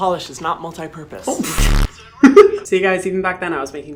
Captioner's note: Hyram laughs